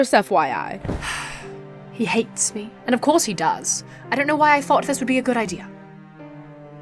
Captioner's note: sighs